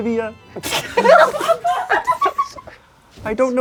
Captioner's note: crowd laughing